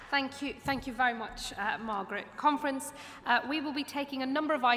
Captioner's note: applause